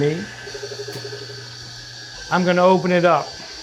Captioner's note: slicer whirring